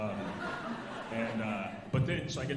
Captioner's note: alumni laughing